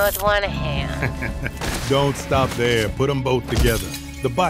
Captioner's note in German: lacht